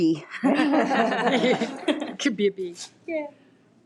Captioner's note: people laughing